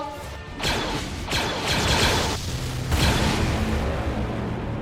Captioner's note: lasers blasting